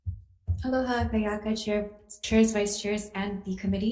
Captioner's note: speaking foreign language